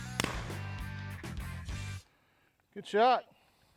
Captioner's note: loud gun shot